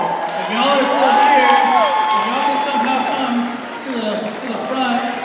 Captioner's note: cheers and applause